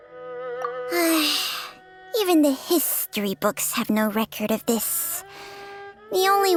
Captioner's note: sigh